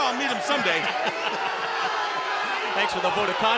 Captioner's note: laughing